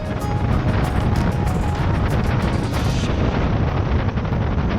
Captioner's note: yacht speeding